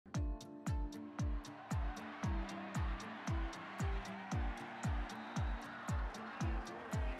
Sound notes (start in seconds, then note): 0.1 upbeat music; 0.9 crowd cheering